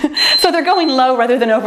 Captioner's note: timer beeps